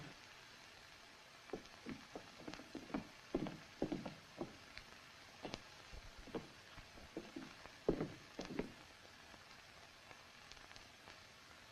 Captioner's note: footsteps